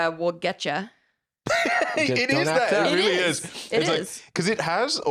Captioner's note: laughs